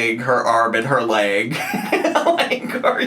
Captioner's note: laughs